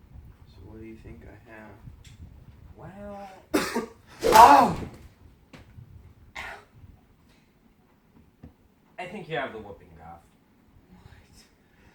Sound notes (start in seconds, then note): 3.5 coughing